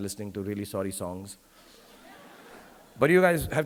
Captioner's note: audience laughing